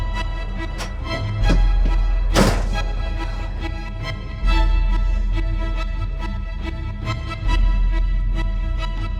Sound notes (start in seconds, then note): 0.3 dramatic music continues; 2.6 door slams